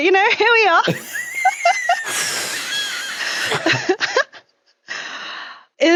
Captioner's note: laugh